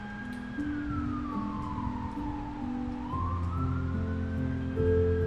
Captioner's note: ambulance siren ringing